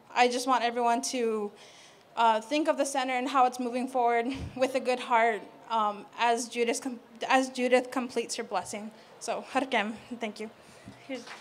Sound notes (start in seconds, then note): 9.3 non-english speech